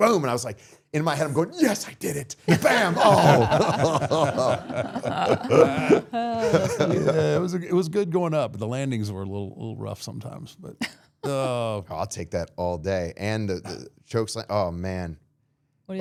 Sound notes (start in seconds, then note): 4.1 everyone laughing; 11.2 podcaster laughing